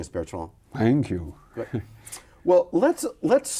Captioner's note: chuckles